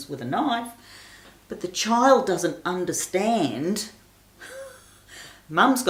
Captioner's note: laughs